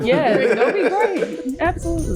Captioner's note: group laughing